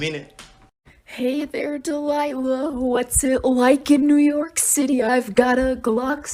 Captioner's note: heavily autotuned